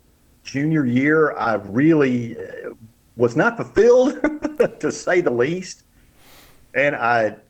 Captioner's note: laughs